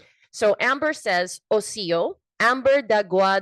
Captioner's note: speaks in foreign language